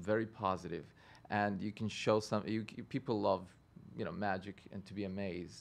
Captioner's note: stutters